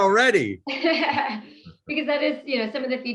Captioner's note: laughter